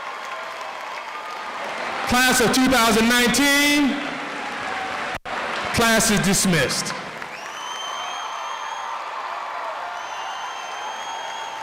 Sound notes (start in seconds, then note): 7.8 audience applauds